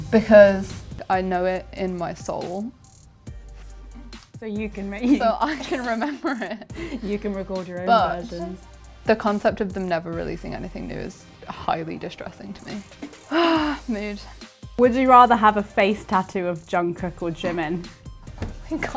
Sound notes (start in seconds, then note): 13.2 sighs